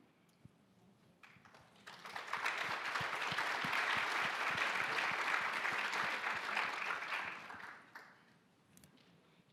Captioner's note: applause